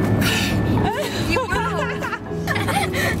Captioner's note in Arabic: يضحك